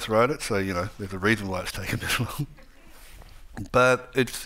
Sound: chuckles

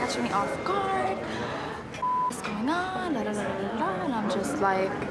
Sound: beep

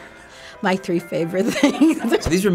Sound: laughs

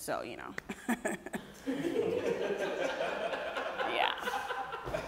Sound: audience laughing

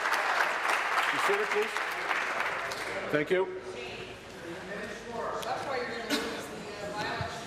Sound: applause

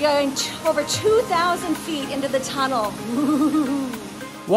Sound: gaggles

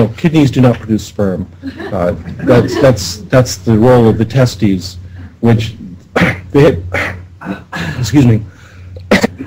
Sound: ahem

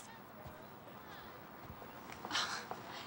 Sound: sighing

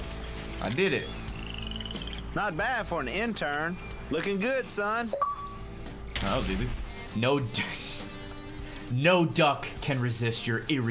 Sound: laughs

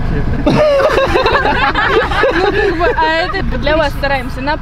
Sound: they laugh with laughter

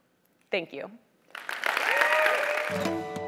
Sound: applause

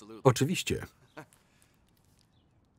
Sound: chuckles

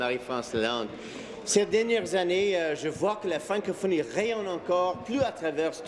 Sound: speaking in French

